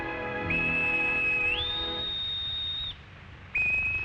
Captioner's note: loud whistle